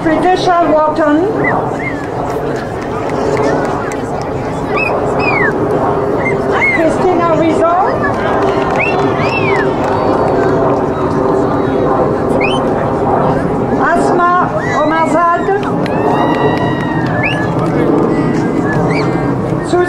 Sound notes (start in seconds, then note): 7.8 crowd applauding; 16.2 crowd cheering